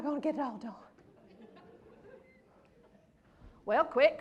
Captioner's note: laughter